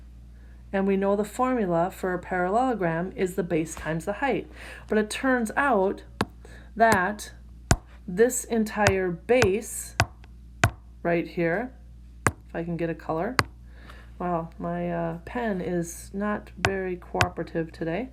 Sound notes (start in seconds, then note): 10.0 tapping sound